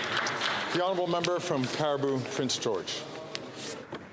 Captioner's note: some Applause